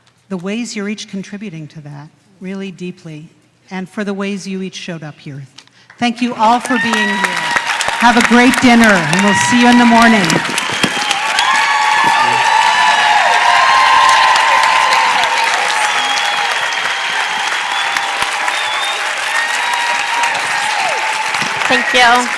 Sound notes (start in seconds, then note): 16.3 applause; 17.5 cheers and applause